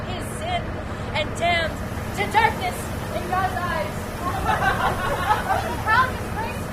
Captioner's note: laughter